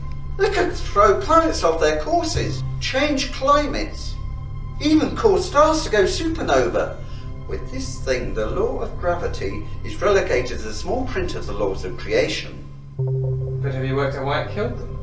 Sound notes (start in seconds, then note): none